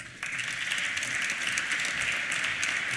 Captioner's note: applause